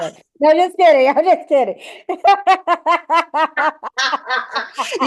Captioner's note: laughs